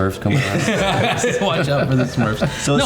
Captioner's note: all laughing